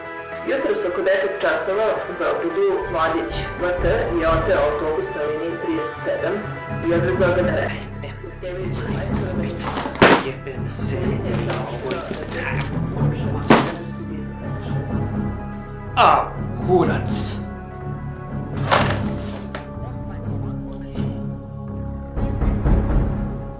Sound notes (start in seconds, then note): 7.2 TV continues in the background; 8.7 grumbles